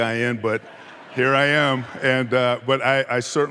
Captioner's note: audience laughing